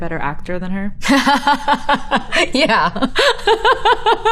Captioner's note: laughing